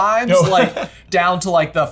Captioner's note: chuckles